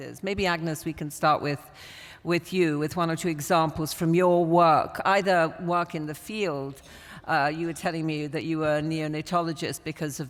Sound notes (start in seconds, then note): none